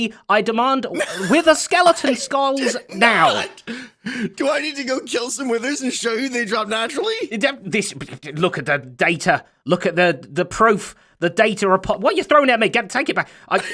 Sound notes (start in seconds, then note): 7.6 spluttering; 13.6 laughs